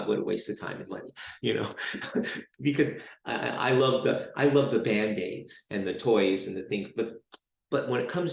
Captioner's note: chuckles